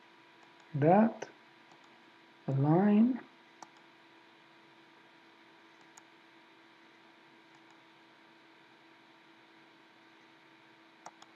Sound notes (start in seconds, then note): 1.7 mouse clicking; 3.7 mouse clicking; 7.5 mouse clicking